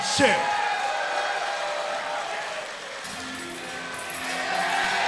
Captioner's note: crowd cheering